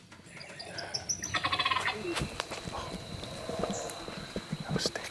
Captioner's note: turkey calls; laughs